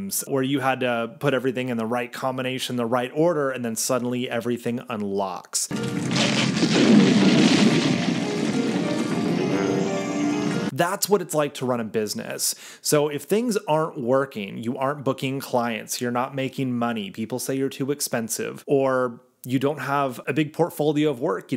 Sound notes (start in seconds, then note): 5.7 brick cracking; 5.8 mystical music